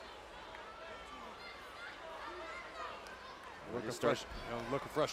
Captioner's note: crowd shouting